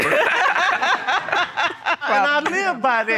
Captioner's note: all laughing